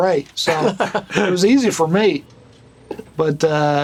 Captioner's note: laughter